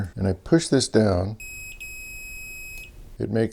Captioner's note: beeping